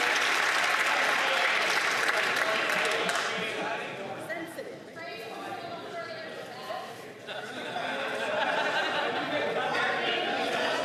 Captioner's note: some Applause